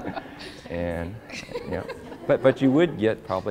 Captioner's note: laughter; laughs; laughter